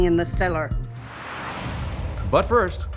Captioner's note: text whooshes; gentle dramatic music